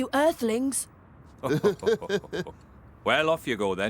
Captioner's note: both Laugh